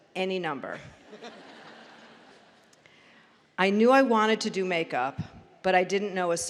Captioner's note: laughter